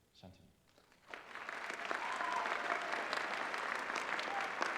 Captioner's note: applause